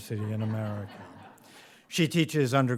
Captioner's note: audience laughs